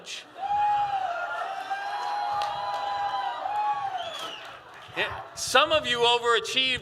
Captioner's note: cheers